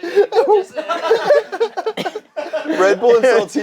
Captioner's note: group laughs